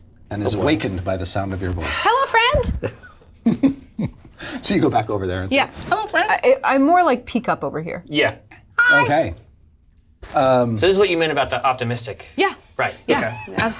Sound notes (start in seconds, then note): 2.6 laughs